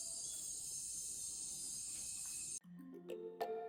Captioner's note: jungle noises end